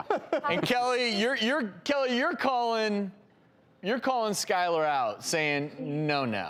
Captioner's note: laughs